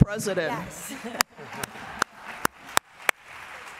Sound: applause

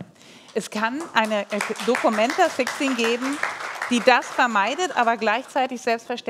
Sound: applause

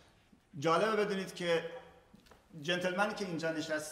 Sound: speaking in farsi

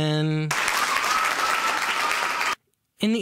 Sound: cheering

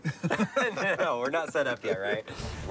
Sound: laughter

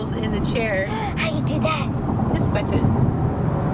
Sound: gasps

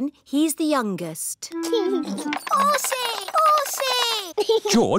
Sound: giggles

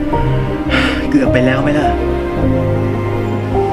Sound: sigh

